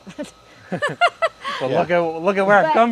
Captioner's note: laughter